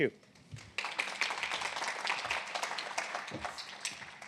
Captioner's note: applause